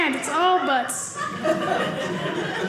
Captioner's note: audience laughing